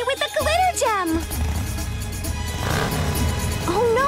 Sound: engine revs

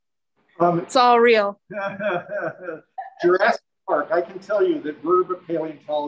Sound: laughs

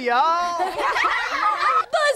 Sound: laughing

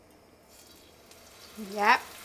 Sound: chicken sizzling

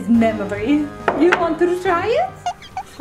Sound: cap bottle thuds; audio squeaking

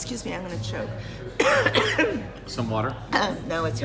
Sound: coughs

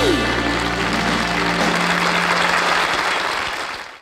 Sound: audience clapping

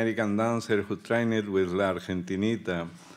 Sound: speaking Spanish

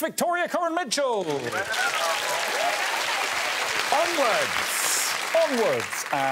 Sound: all applauding

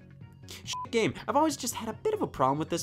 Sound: beep

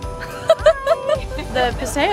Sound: laughs

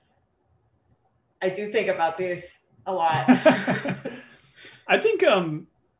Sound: laughs

